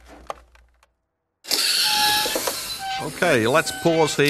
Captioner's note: wipers screeching